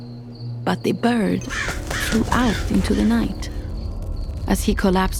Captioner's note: crow cawing